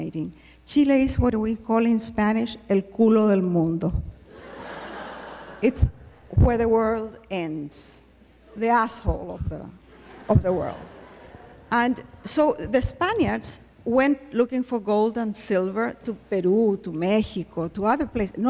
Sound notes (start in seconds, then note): 2.1 non-english speech